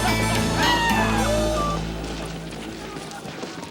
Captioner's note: riders howl